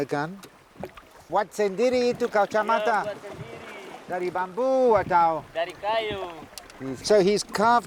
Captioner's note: both speaking Austronesian language